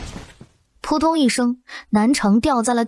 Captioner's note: thud!